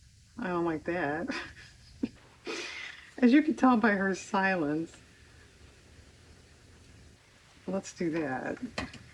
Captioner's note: laughs